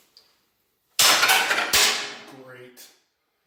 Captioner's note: tools clatter